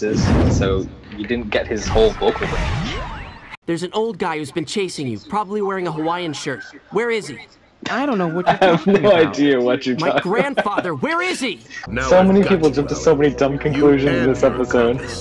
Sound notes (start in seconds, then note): 8.2 laughs